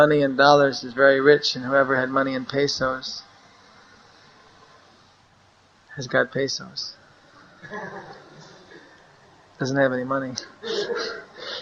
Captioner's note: laughter